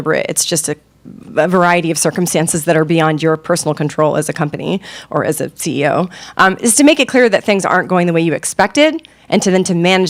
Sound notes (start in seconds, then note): none